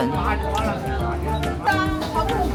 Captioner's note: squealing inside